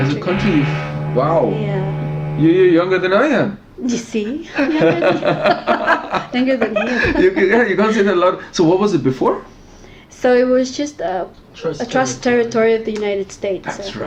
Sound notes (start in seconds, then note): 4.4 laughing